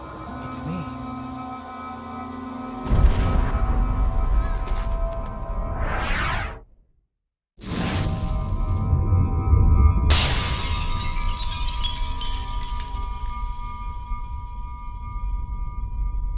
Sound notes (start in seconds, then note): 2.9 thunder rumbling; 10.1 glass shattering